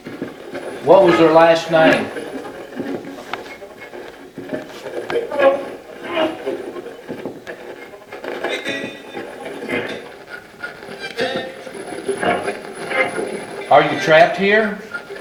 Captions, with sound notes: What was their last name? (radio channel changing) Are you trapped here?